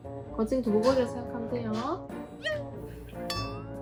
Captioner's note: haha